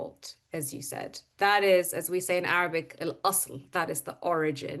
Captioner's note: speaks Arabic